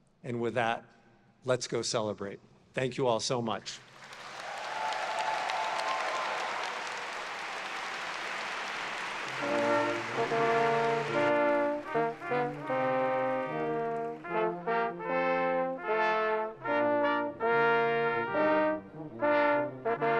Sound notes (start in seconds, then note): 4.7 audience cheers; 10.5 celebratory horn music